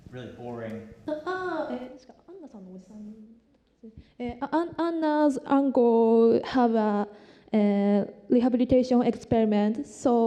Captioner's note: non-english